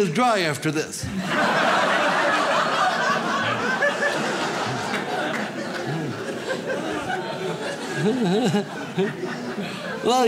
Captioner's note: audience laughs